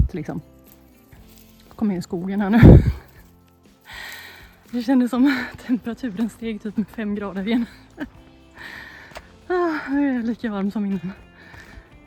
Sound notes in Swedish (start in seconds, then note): 3.5 skratt; 3.8 drar efter andan; 7.5 skratt